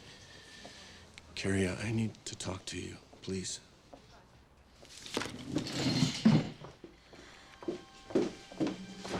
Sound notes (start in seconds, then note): 6.3 exhales